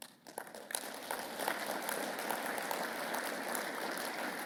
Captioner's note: audience applauding